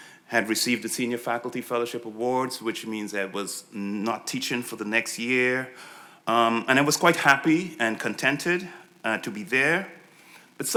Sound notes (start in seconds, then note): none